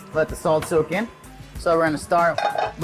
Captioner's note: metallic clattering